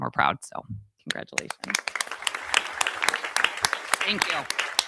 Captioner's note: audience applauding